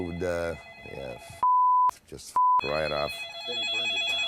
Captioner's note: phone ringing; beep